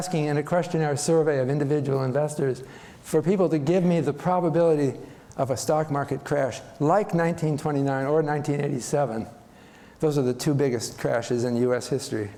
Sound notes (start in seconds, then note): none